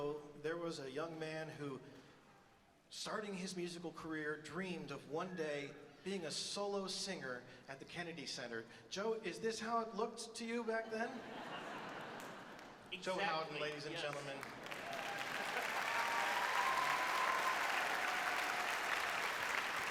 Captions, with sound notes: - Many years ago, there was a young man who, starting his musical career, dreamed of one day being a solo singer at the Kennedy Center. Joe, is this how it looked to you back then? (audience laughs) - Exactly. - Joe Houghton, ladies and gentlemen. (audience cheers and applauds)